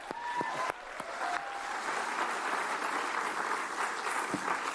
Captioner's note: applause